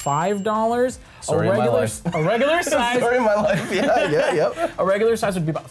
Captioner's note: laughs